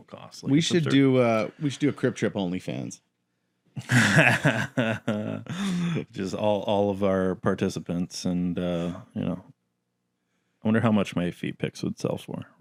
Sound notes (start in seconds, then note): 3.8 laughs